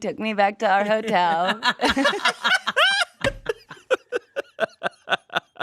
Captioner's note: everyone laughs